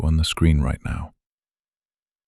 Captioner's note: short pause